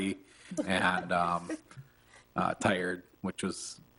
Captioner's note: board laughs